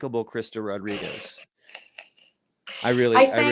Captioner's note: chuckles